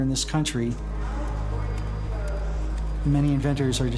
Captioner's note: background chatter